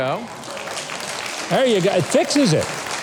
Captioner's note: audience applauding